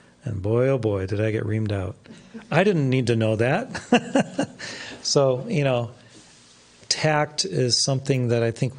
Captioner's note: laughs